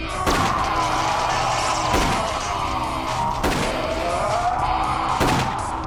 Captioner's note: grunts; roars